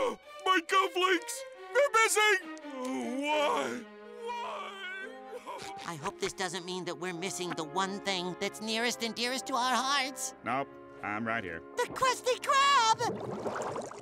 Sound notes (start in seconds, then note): 4.1 sobs